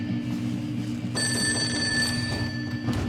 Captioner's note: telephone ringing; knocking at door